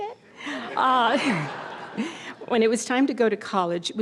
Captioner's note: audience laughter